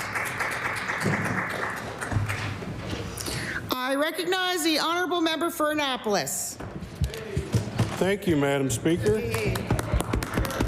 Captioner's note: applause